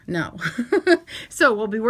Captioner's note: laughing